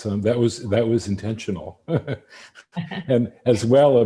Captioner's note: laughs